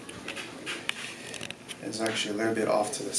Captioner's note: joint crackles